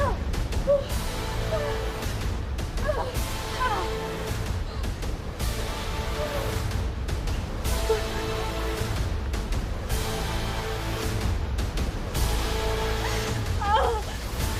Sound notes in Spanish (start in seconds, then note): 2.3 Quejidos; 2.7 Sollozos